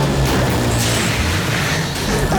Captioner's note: steam hissing; grunting